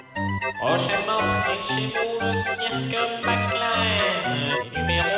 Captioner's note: annoying voice